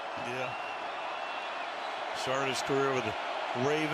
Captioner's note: cheering